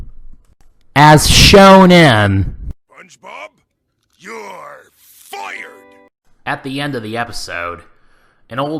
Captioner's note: Mr. Krabs' voice